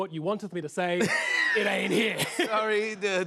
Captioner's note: laughter